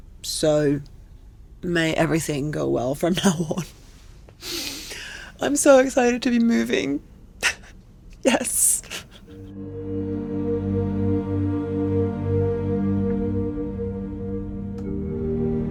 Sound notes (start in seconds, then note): 4.4 speaker inhales; 9.5 soft melodic music